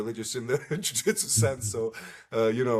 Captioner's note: laughs